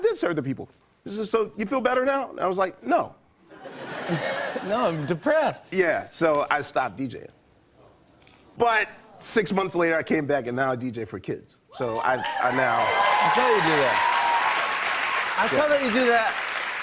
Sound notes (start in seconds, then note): 3.5 laughter; 11.8 cheers and applause